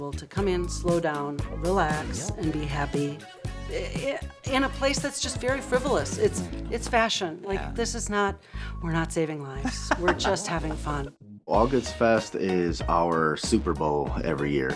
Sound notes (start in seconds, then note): 9.6 laughter